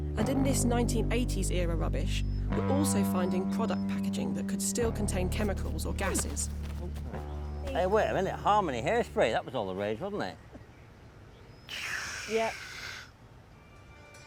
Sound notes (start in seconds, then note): 11.6 George hissing